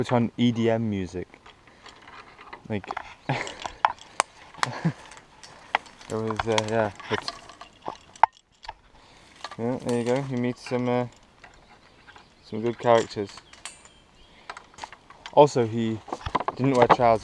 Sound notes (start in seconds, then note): 4.5 chuckles